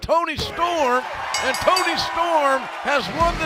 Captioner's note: bell ringing